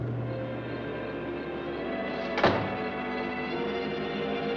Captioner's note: door closes